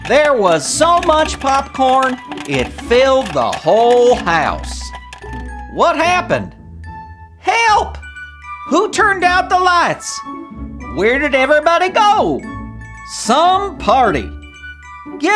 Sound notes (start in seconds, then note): 4.8 popcorn pops; 6.1 cheerful orchestra music